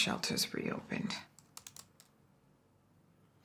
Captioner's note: keyboard clicking